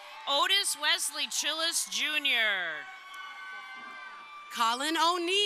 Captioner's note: crowd cheering